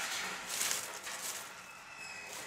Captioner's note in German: Rascheln